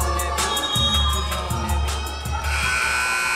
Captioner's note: whistle blowing; buzzer buzzing